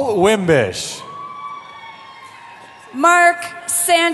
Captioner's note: cheering